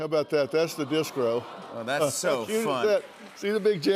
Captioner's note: audience aws